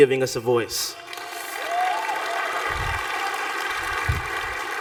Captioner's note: applause